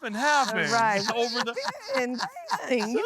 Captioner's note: everyone laughing